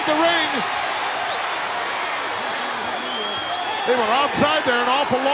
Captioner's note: audience cheering